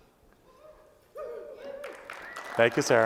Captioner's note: applause